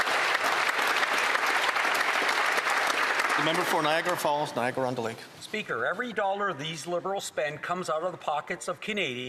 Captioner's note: some Applause